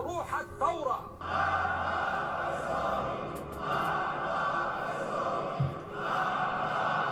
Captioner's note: chanting in a foreign language